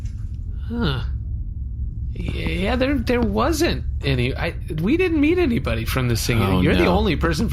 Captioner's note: hesitantly